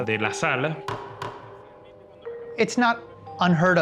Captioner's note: judge's gavel knocks